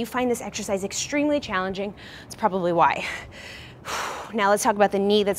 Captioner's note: exhales loudly